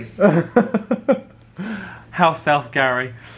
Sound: laughs

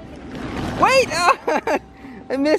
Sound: laughs

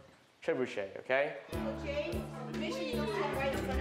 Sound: students chatting

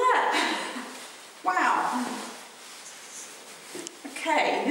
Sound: laughs; laughs

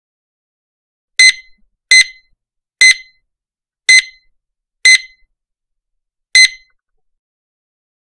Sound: sound of shop scanner

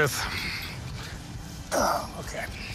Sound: sighs

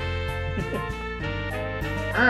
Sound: chuckles

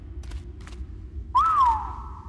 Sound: whistle

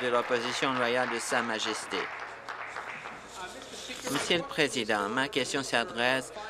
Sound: applause

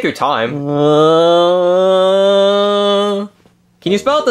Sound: groaning

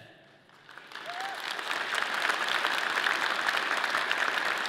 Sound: audience clapping

